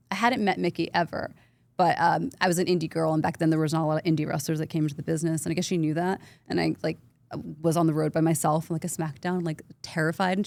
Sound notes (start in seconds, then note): none